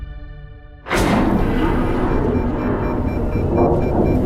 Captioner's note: heavy mechanical door opens